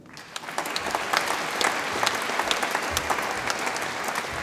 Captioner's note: audience applauds